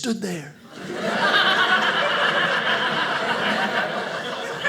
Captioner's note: audience laughing